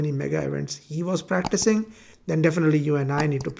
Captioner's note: mouse clicking